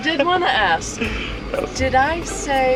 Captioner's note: laughs